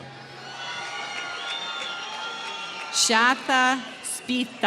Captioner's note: applause